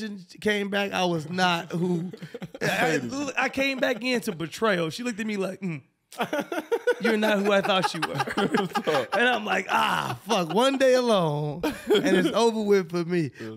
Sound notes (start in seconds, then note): 8.4 laughing